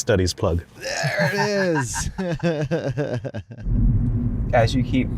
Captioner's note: laughter